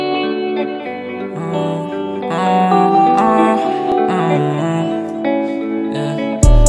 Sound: hums

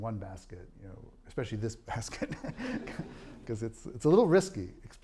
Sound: laughing

